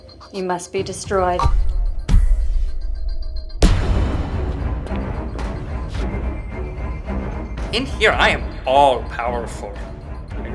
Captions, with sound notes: You must be destroyed. (echoing blast) (ominous music) - In here, I am all-powerful.